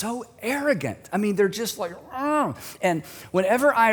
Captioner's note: groans